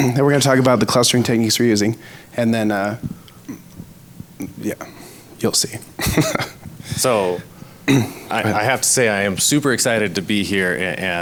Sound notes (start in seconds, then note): 5.9 laughs; 7.8 clears throat